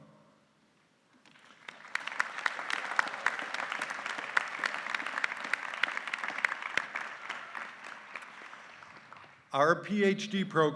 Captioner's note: applause